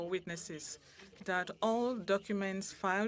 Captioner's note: speaking French